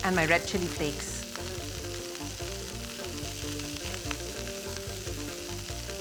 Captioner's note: pan sizzling